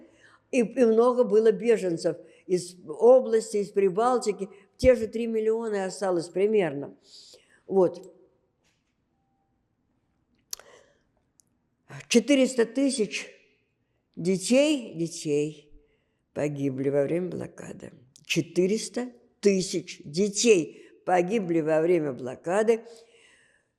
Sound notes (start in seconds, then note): 10.3 gasping